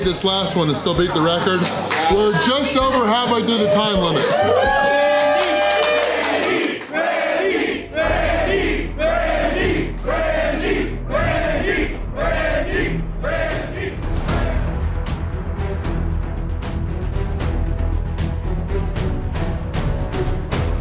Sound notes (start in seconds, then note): 7.9 crowd